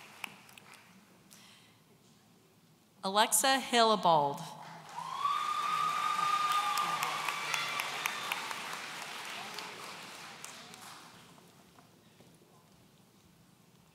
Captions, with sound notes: Alexa Hillabold. (audience cheering)